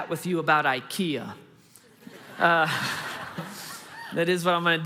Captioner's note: congregation laughing